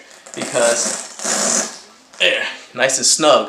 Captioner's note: tool zips